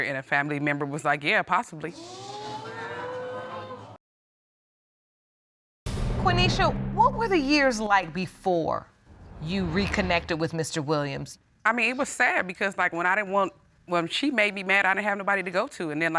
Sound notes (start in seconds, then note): 2.0 audience gasps